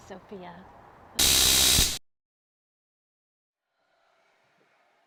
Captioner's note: taser crackling